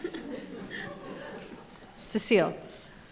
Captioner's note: members of the audience laughing